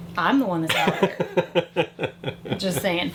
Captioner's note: laughs